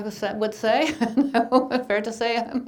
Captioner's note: laughing